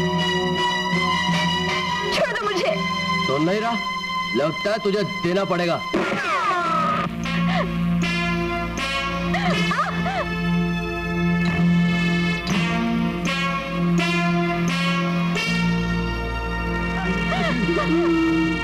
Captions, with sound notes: Let go of me. You won't listen. I think I'll have to shoot you. (Gunshot) (Gasps)